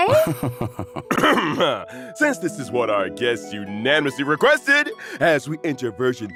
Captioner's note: ahem